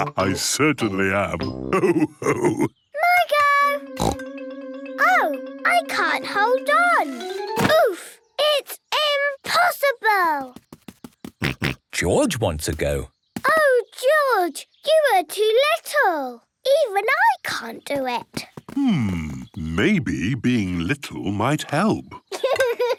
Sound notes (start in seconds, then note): 4.0 snorts; 11.0 snorts; 22.8 laughs